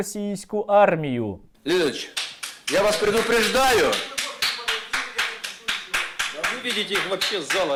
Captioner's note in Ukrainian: чутно оплески